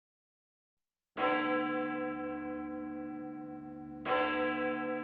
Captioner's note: bell tolling